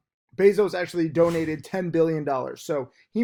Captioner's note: air whooshes